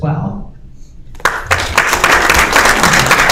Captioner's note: applause